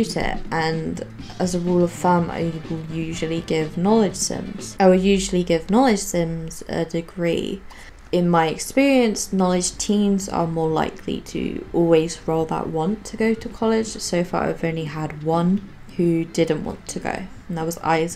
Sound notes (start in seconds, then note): none